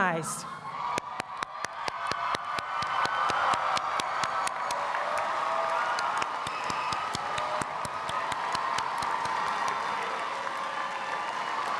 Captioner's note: applause